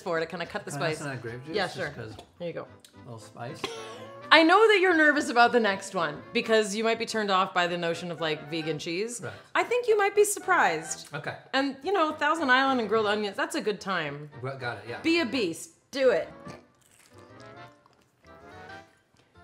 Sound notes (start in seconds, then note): 16.4 chewing